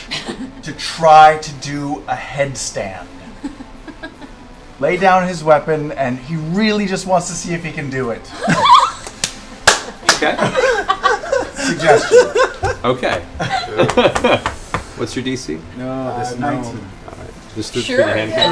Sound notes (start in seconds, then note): 8.3 laughter; 13.8 laughs